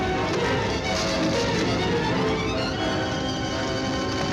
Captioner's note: rocks crumbling